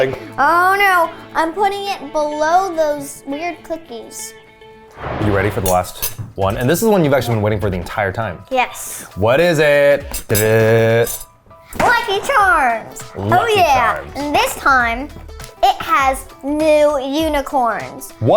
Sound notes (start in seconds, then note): 5.0 animated explosion booming; 10.2 vocalizes; 11.8 cereal box thudding